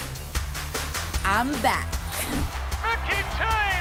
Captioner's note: crowd cheering